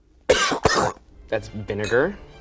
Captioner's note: coughing